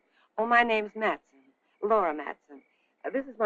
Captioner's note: none